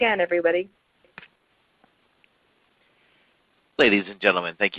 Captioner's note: silence